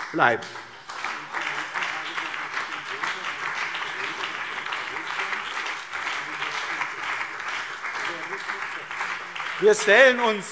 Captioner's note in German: Beifall BÜNDNIS 90/DIE GRÜNEN und CDU